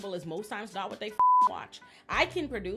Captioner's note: beep